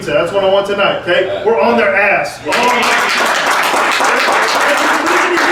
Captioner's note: group clapping